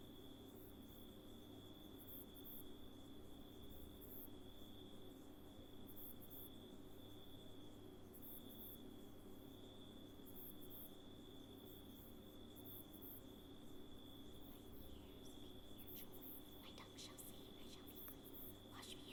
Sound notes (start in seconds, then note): 16.0 whispers